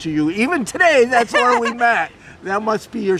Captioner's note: laughing